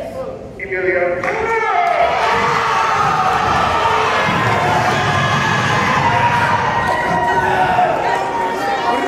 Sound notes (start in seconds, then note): 1.8 cheering and applause